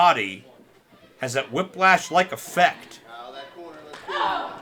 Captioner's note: wrestlers grunting